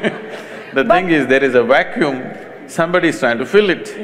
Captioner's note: laughter; laughs